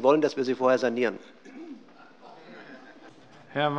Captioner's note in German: Allgemeine Heiterkeit